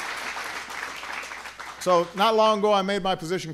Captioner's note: applause